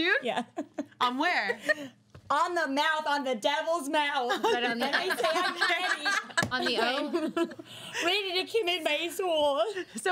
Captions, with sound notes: - You kissed June? - Yeah. - On where? - On the mouth, on the devil's mouth. (girls laughing) - On the O? - Ready to commit my soul.